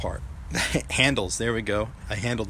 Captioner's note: chuckles